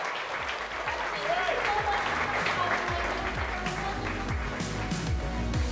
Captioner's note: crowd cheering